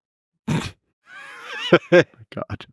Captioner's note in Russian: Лекс и Пол смеются